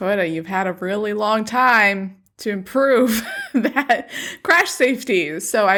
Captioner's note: laughs